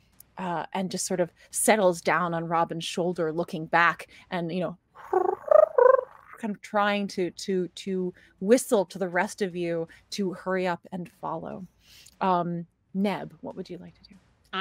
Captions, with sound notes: And just sort of settles down on Robin's shoulder looking back and you know, (Pivam chirps) kind of trying to whistle to the rest of you to hurry up and follow. Neb, what would you like to do?